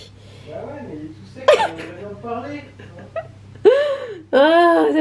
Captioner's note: laughs